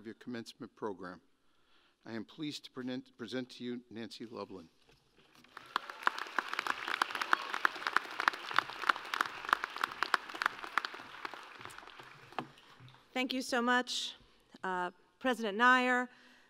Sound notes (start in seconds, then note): 5.3 applause